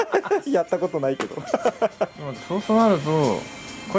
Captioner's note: laughs